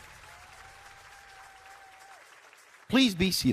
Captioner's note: applause